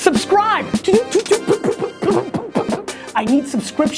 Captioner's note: beatboxing